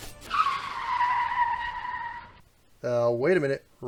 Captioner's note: car brake